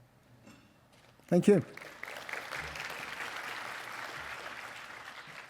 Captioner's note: audience applauding